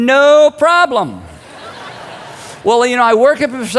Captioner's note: crowd laughing